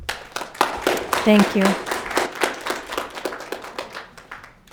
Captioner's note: audience clapping